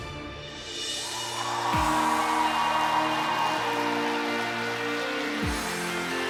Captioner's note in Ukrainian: оплески